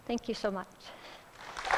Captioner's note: applause